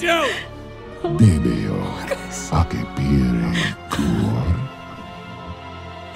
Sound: demon speaks in foreign language

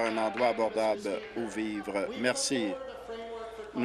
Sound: applause

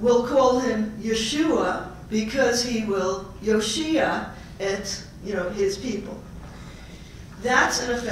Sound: Hebrew

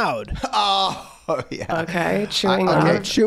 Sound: laughing

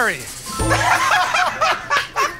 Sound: laughter

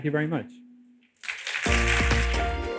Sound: applause

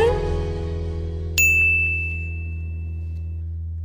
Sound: Z's phone DINGS

